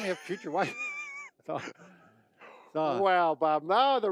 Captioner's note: both laugh